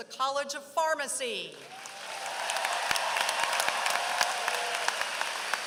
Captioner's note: applause